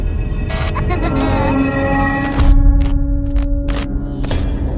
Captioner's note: ominous music; baby laughing